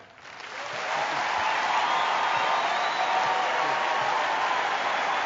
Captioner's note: cheering and applause